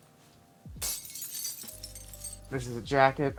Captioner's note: glass breaking